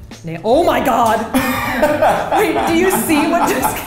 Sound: laughs

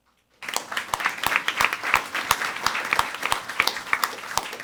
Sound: audience applauding

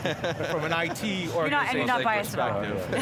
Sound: laughing

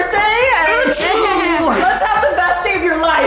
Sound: makes alien noise

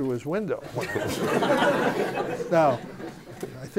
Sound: laughter

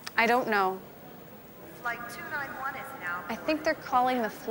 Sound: flight announcement

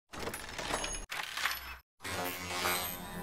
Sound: sign jingling; sign jingling with more distortion

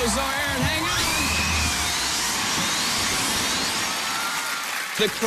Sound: cheers and applause

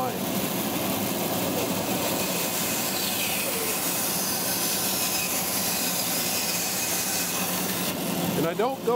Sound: saw whirring

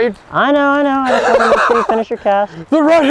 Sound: laughter

